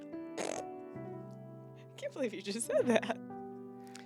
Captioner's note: blows raspberry